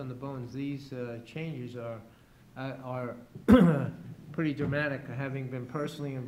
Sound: clears throat

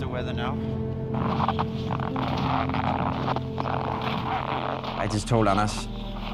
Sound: radio crackling

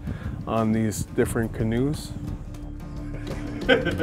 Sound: laughing

